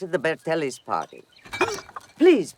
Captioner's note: groans